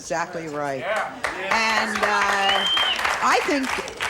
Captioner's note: audience applauds